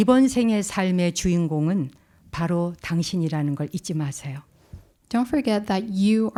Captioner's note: speaking in Korean